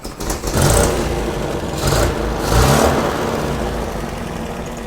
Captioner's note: engine revving; engine rumbling